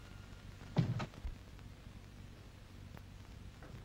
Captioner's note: door closes